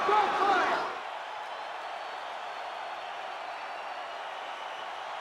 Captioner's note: spectators cheering